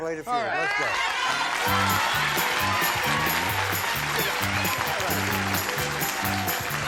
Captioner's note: applause